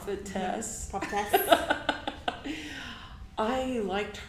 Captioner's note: laughs